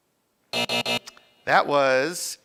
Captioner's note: end time buzzer rings